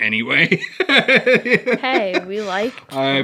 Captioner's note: laughing